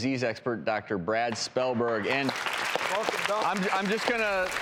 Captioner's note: applauding